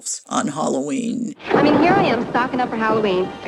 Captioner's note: soundbite of archived recording